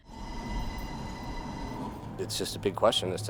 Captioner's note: cable car whirs